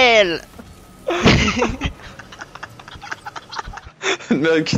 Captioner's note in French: rires